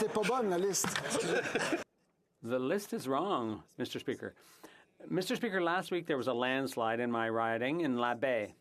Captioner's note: laughter